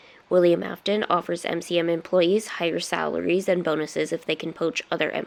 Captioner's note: none